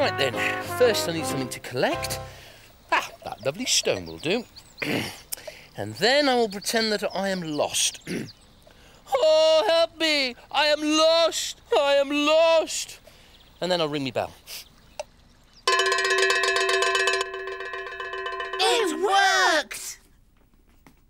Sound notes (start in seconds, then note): 15.6 bell ringing loudly